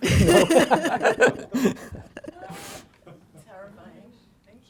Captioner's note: laughter